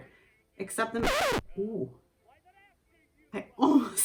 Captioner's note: record scratch